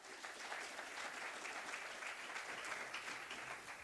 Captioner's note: applause